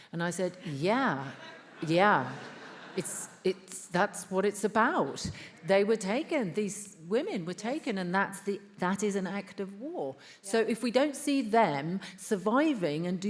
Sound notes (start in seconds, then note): 1.3 attendees laughs